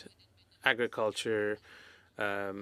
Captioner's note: speaking French